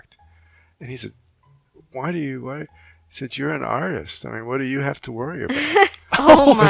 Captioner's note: laughing